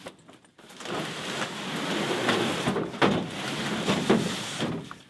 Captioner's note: boxes sliding